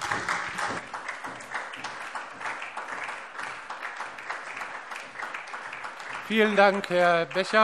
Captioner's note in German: Beifall SPD